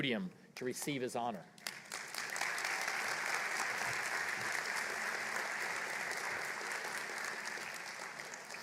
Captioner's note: applause